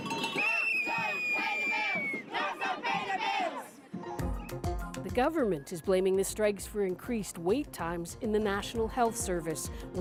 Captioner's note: chanting